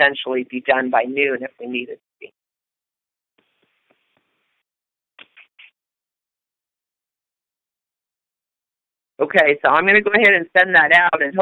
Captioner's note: silence